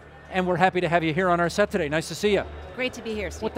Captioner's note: none